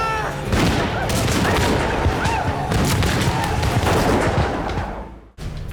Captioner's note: firing gunshots